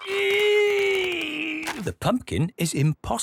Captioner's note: straining